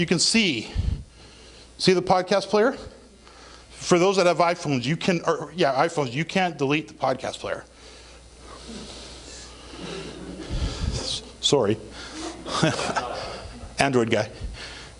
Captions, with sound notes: you can see, see the podcast player? For those that have iPhones, you can't delete the podcast player. (audience mumbling) Sorry. (audience laughing) Android guy.